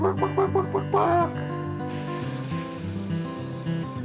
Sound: humming

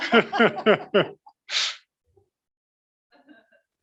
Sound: laughing

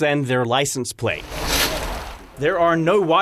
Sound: scraping

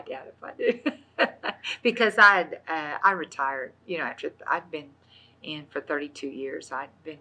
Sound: laughs

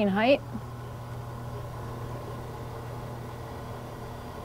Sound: bed humming

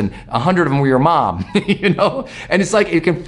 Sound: laughs

